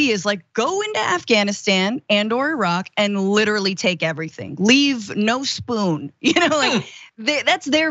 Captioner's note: laugh